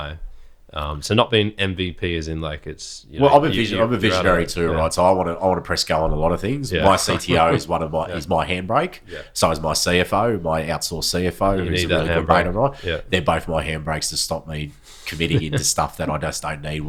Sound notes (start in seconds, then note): 11.2 laughing